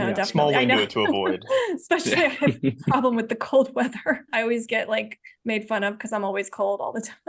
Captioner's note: laughing